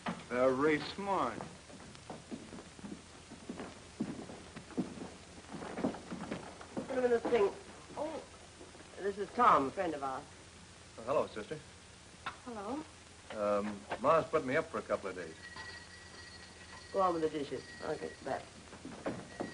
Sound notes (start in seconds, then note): 15.3 doorbell rings